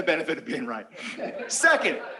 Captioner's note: laughter